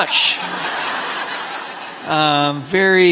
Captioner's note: congregation laughing